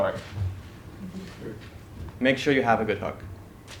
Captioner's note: laugh